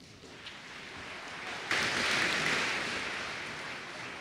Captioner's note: applause